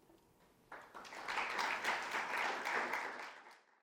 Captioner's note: attendees applauding